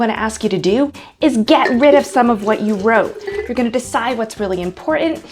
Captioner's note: pours water out of glass